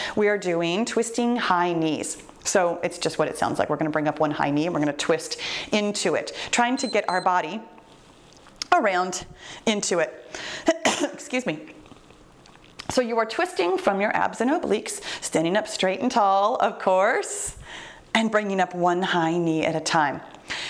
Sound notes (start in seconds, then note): 6.7 timer beeps; 10.7 coughs